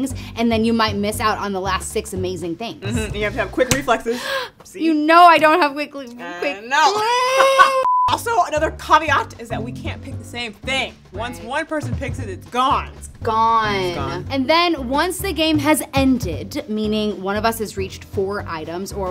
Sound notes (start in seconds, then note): 4.0 gasps; 6.1 stammering; 6.7 laughs